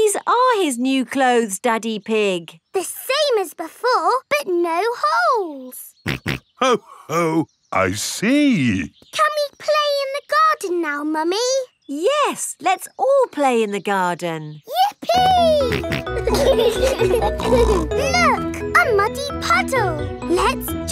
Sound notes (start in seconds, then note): 6.1 snorts; 16.7 laughing